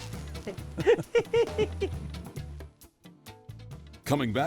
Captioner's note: laughing